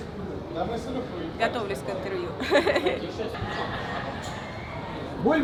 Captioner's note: laughter